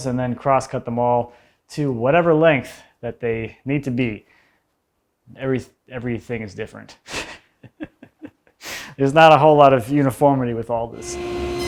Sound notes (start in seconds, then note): 7.1 laughs softly; 10.9 saw buzzing